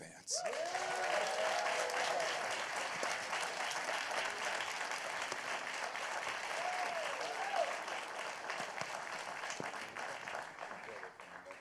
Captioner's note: applause